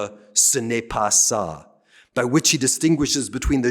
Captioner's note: speaking french